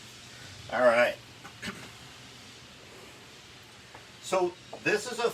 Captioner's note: clears throat